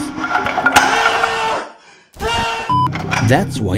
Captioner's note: screams